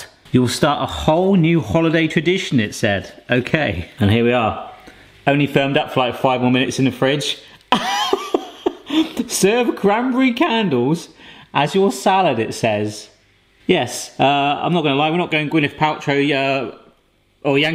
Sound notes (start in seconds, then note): 7.7 laughing